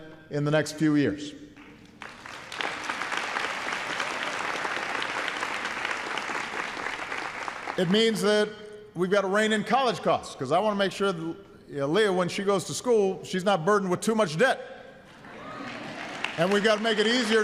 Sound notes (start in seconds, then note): 1.6 applause; 15.5 applause